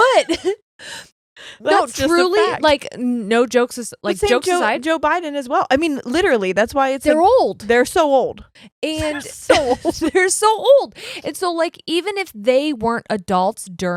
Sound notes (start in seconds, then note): 0.0 chuckles; 0.0 laughs; 9.0 laughs; 9.0 chuckles